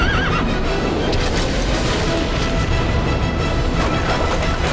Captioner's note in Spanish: Relincho; Explosión; Estruendo